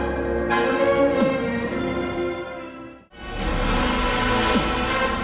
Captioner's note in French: pas plus lourds